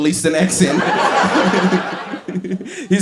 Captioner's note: giggles